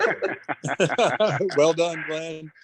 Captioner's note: speakers laughing